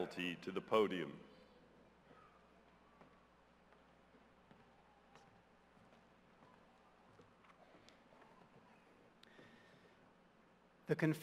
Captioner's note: silence